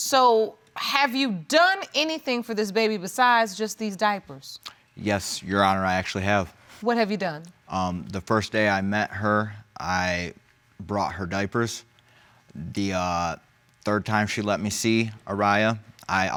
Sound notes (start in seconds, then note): none